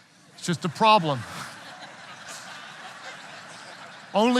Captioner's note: audience laughing